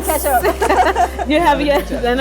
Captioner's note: laughs